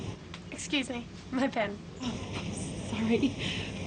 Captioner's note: chuckles